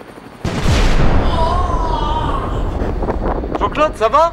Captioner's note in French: Explosion; Crie